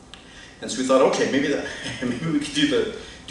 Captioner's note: chuckles